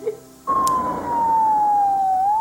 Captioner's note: ambulance siren